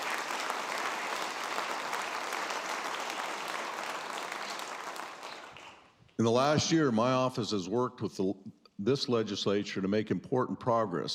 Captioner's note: applause